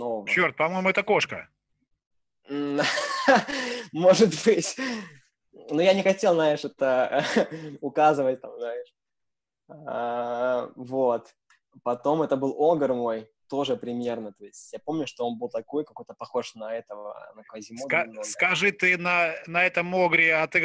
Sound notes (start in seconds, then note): 2.6 laughing